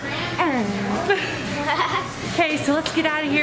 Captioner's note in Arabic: يضحك